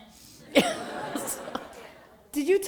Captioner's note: laughter